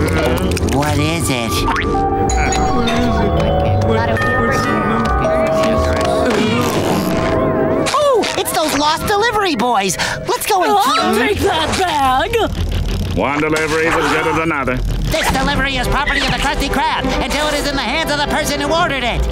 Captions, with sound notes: What is it? [doorbell ringing] Oh, it's those lost delivery boys! Let's go and- I'll take that bag. One delivery's as good as another. This delivery is property of the Krusty Krab until it is in the hands of the person who ordered it!